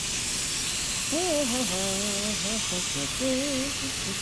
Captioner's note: chuckles; humming